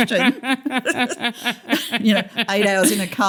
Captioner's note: laughter